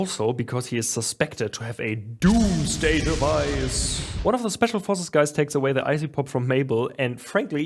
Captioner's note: dramatic voice